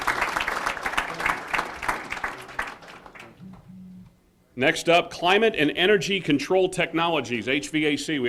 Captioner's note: applause